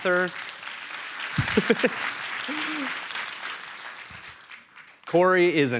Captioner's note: audience applauding